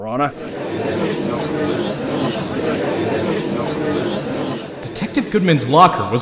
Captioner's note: gallery chattering